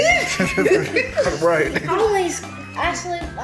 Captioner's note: all laughing